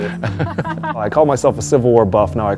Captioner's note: laughter